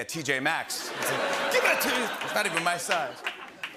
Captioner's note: laughter